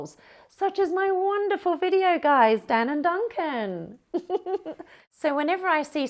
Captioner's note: laughs